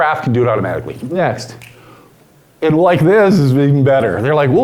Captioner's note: snaps fingers